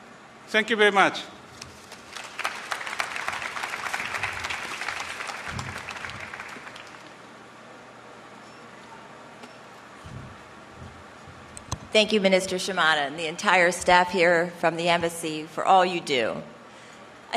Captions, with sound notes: THANK YOU VERY MUCH. [APPLAUSE] >> THANK YOU, MINISTER SHIMADA, THE ENTIRE STAFF FROM THE EMBASSY FOR ALL YOU DO.